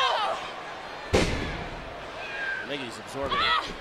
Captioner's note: ring thuds